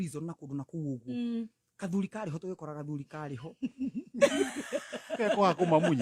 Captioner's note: laughter